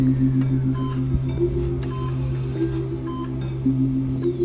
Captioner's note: mother sniffles